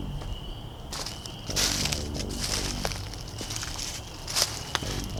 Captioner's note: footsteps in leaves